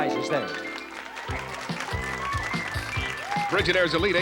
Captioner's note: audience applauds